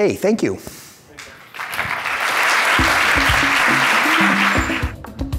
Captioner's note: audience applauds; upbeat percussion music